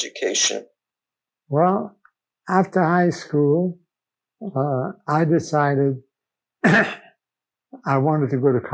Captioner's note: clears throat